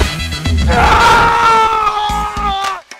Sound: screams

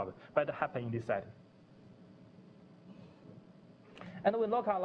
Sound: pause

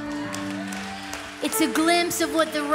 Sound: congregation applauds

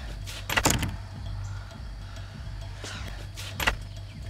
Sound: door shuts

